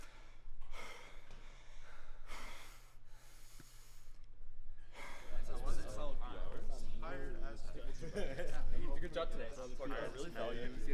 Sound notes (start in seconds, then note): 5.2 teammates chatting